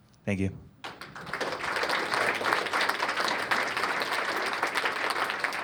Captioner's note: applause